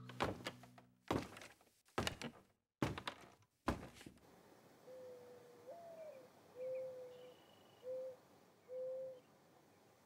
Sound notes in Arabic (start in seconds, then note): 1.0 خطوات صعود الدرج; 4.8 هديل حمامة الحداد